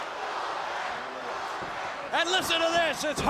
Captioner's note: crowd cheering